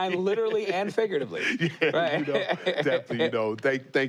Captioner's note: laughter